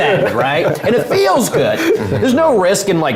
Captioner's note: laugh